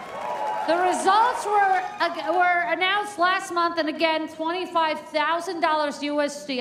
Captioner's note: cheers and applause